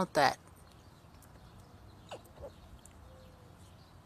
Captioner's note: squirrel chitters